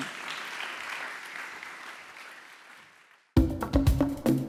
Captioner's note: audience applauds; upbeat percussion music